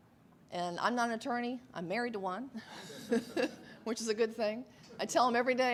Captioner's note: laughs